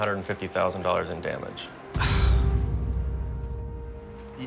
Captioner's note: sigh